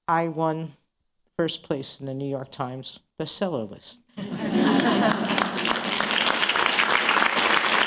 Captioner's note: laughter and applause